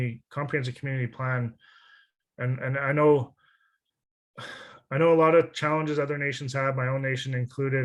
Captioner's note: sigh